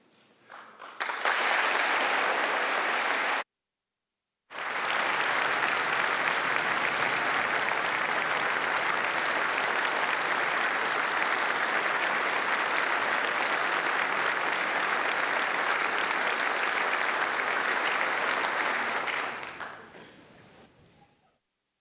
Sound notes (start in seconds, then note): 4.5 applause